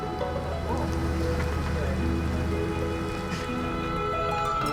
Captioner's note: background talking